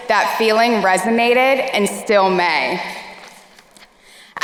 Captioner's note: none